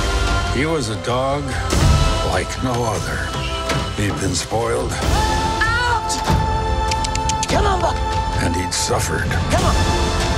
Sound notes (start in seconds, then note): 6.9 clicks tongue